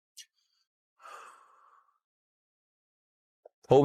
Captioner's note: deep Breath